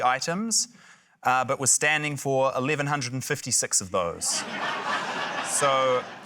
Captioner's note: laughter